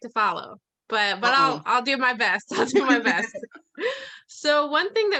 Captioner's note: laughs